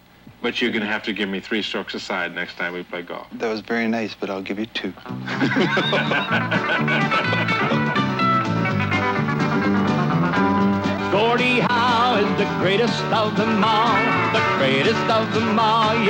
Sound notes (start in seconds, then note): 5.1 both laughing; 5.2 upbeat music